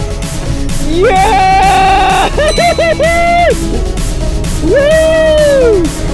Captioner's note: suspenseful music; laughs